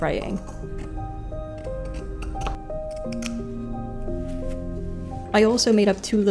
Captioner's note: zigzag-themed cutting noises